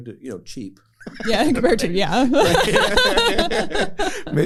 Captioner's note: laughter